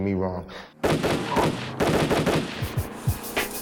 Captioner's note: gunshots